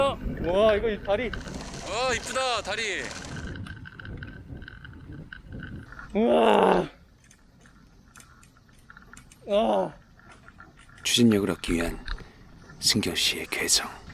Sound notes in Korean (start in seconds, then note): 6.2 우와악!